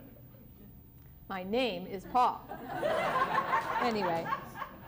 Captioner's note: laughter